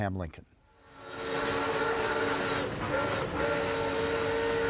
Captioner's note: train whistles